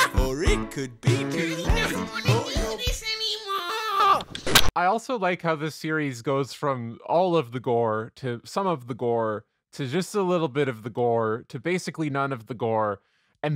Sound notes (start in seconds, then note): 4.3 harsh audio cut